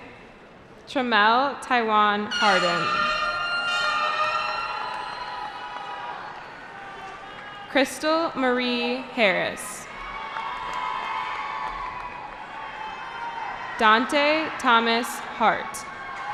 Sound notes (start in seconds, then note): 2.6 cheering; 9.8 cheering